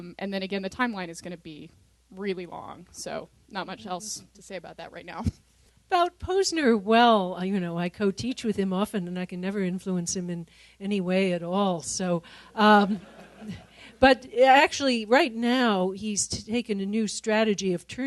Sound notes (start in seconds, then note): 12.8 laughter